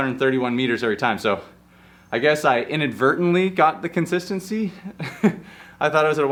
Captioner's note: chuckles